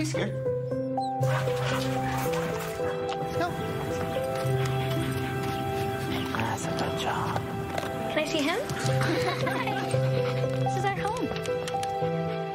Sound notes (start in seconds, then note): 5.9 chewing